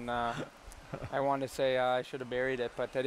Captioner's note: laughter